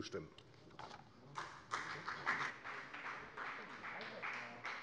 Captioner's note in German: Beifall bei der FDP